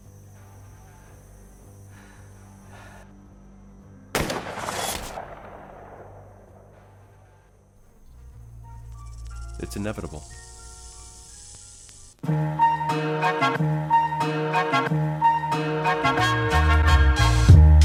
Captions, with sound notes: [gunshot] It's inevitable.